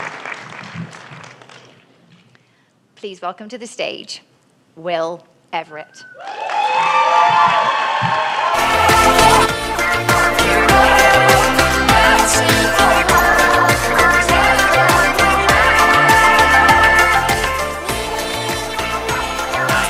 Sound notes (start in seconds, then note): 0.0 applause; 6.2 applause